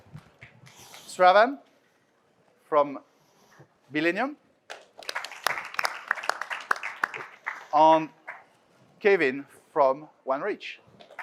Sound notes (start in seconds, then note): 4.7 audience claps